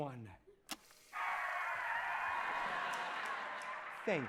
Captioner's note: crowd cheering over tape recorder